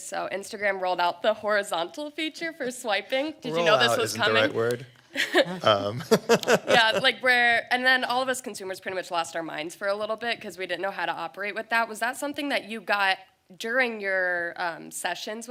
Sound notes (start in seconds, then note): 5.2 laughs